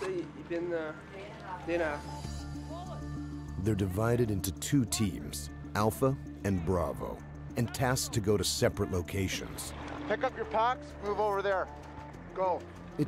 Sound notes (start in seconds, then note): 5.1 voiceover